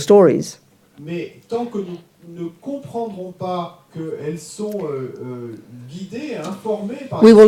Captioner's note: audience member speaks in French